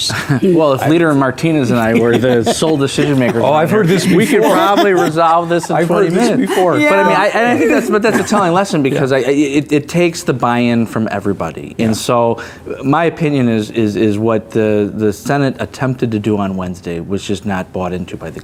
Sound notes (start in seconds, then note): 4.3 laughing